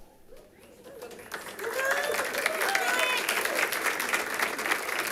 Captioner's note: audience applauding